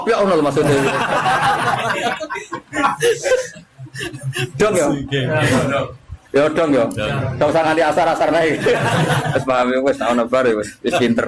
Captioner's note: laughs